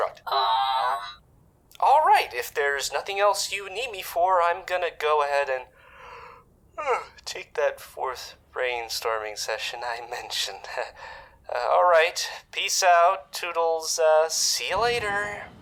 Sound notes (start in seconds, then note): 6.7 yawns; 10.6 chuckles